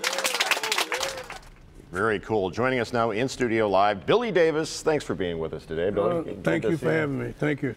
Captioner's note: applause